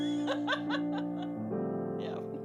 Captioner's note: laughs